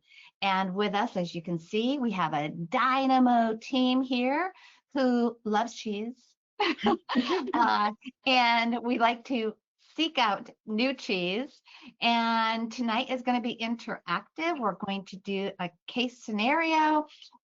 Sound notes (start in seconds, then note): 6.6 laughter